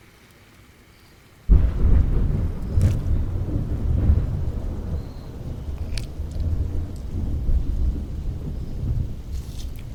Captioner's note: A crash of thunder amidst heavy rain